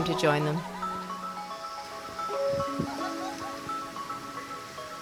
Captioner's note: laughs